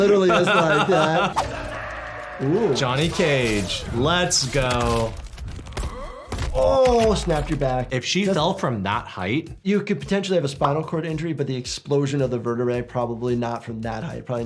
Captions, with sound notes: But it literally is like that. Ooh. - Johnny Cage. Let's go. (Johnny grunts) (spine snaps) - Oh, snapped your back. - If she fell from that height? - You could potentially have a spinal cord injury. But the explosion of the vertebrae, probably not from that height.